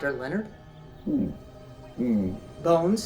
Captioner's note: mumbles affirmative